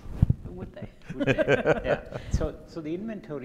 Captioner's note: group laughing